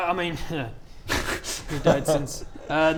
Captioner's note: insensitive giggles